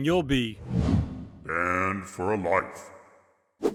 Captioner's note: deep voice